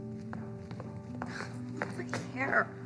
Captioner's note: footsteps click-clacking